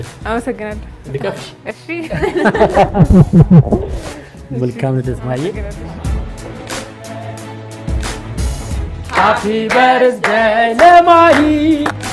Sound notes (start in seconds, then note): 2.0 laughter